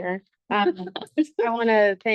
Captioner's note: board members laugh